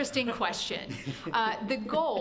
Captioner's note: laughter